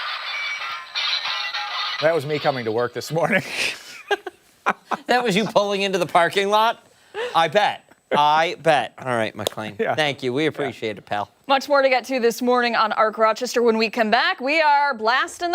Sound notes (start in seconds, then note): 3.3 laughter